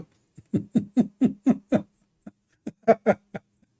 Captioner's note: Ketawa